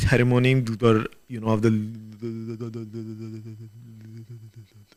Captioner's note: imitates airplane